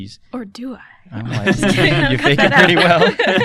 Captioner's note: laughter